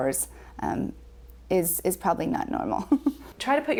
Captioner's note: chuckles